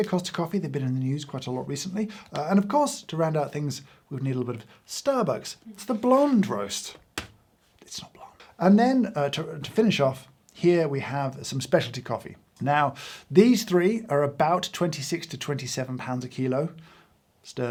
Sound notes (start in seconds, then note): 8.0 whispers